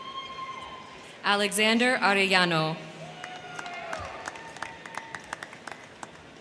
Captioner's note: crowd cheering